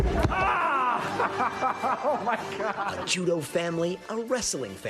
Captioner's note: laughter